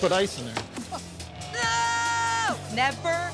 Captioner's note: screaming